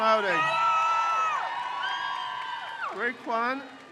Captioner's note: crowd cheers